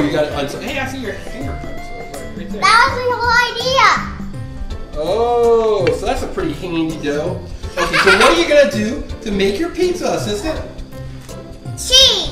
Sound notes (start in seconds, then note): 4.4 voiceover